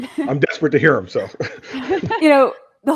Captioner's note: laughter